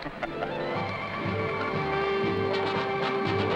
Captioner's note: men laughing; upbeat music